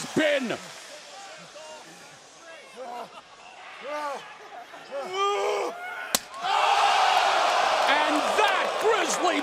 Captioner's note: crowd cheering